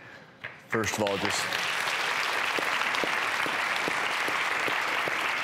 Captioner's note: applauding